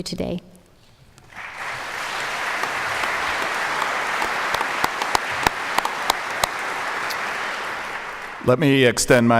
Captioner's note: applause